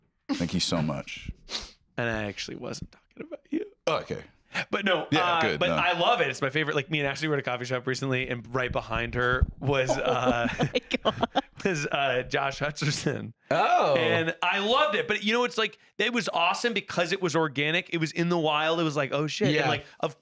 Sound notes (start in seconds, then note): 9.8 laughs